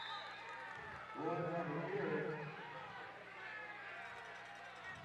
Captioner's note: applause